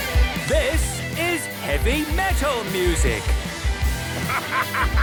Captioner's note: shouting